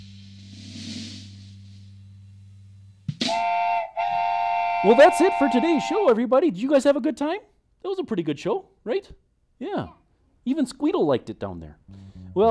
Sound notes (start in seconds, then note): 0.3 drum tapping; 3.2 whistle blows